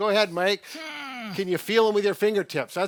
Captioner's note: grunts